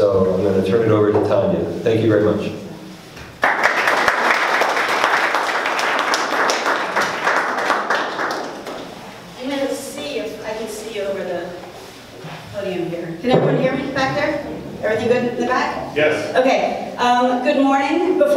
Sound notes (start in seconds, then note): 3.3 audience clapping